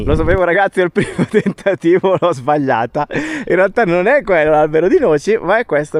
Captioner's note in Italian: risate